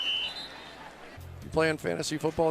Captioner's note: whistle